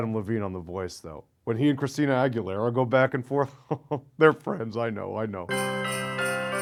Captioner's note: chuckles; christmas music